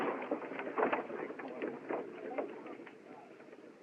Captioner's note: chattering